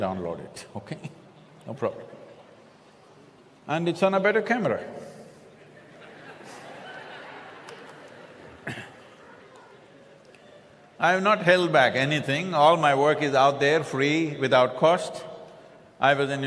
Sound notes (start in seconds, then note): 5.5 laughs